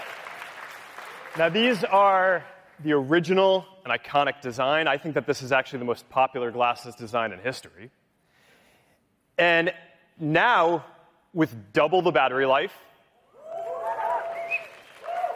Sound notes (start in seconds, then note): 1.6 cheering